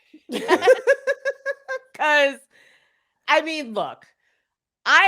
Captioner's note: both laugh